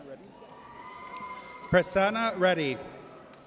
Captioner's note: audience cheers